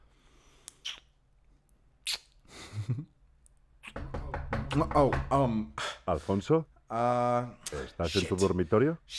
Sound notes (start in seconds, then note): 0.1 kissing; 2.5 Alfonso giggles; 3.9 Hugo knocks on the door; 5.1 in Spanish